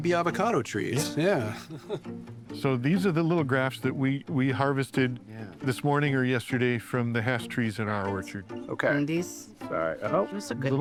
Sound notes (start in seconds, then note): 1.0 laughs